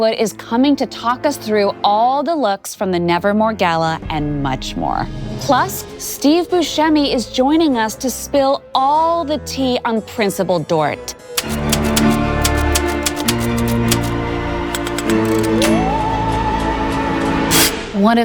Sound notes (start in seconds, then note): 11.4 keys clacking; 11.4 ominous music